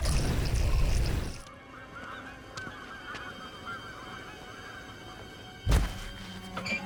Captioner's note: birds squawking; clanking